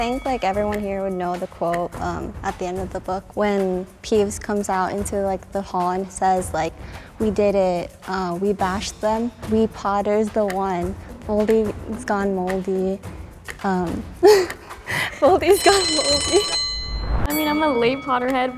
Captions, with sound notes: - I think everyone here would know the quote at the end of the book, when Peeves comes out into the hall and says like "We did it, we bashed them." "Wee Potter's the one, Voldy has gone moldy." (laughs) Voldy's gone moldy. (bell rings) - I mean, I'm a late Potter Head